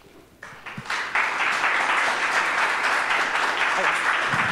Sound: audience applauding

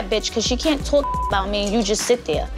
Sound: beep

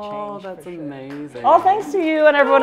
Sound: applause

